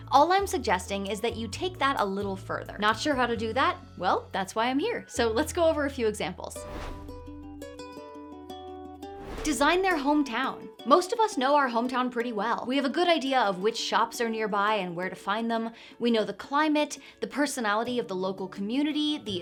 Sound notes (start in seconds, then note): 6.6 air whooshing; 6.7 upbeat music; 9.1 air whooshing